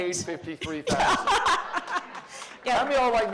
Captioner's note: laughter